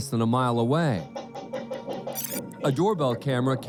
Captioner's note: knocking on door